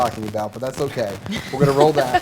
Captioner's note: laughter